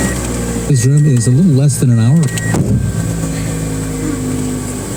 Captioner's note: car starting; The sound of NPR. It stops